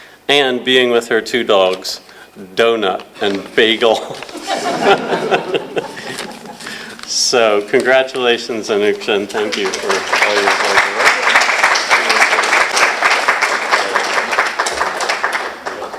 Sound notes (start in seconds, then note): 4.0 laughter; 11.3 applause